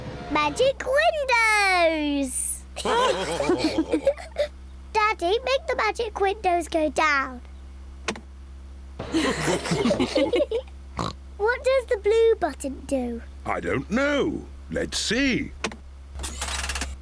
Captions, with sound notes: Magic windows! (ALL LAUGHING) Daddy, make the magic windows go down. (ALL LAUGHING) (OINKS) What does the blue button do? I don't know. Let's see.